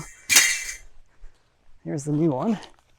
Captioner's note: metal clanging